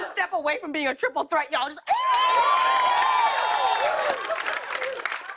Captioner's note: cheers and applause